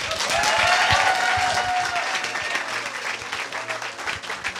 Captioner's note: audience applauding